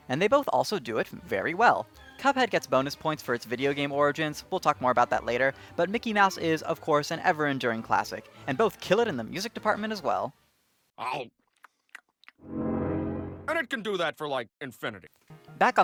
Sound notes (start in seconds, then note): 11.5 chewing sounds; 12.4 vzoom